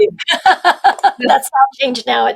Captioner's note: laughing